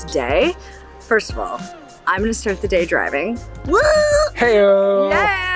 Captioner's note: screams